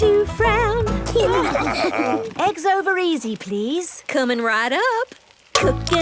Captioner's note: laughing